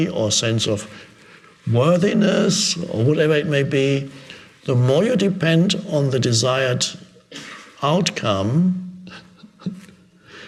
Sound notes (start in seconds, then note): 9.0 chuckles